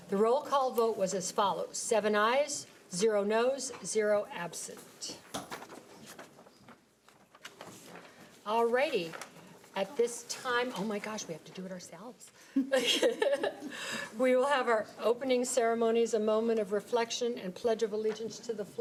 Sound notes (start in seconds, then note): 12.7 people laughing